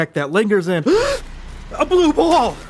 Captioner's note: gasps